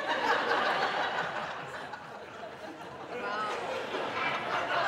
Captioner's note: audience laughing